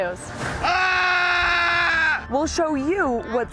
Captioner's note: yelling